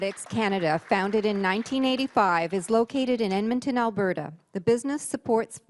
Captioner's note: voice-over